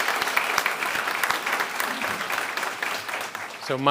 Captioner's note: a pplause